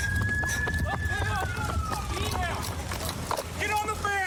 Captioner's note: shouting